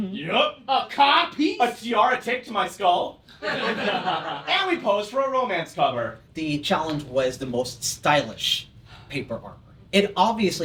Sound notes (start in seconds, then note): 3.4 laughter